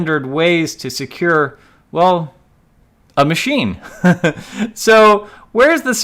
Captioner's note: laughs